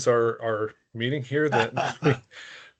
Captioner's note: laughing